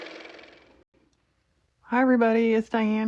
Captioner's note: car motor